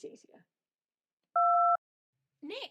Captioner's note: voicemail beep